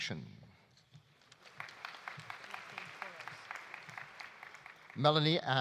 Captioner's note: audience applauding